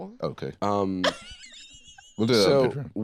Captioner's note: laughs